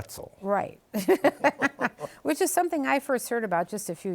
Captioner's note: both laughing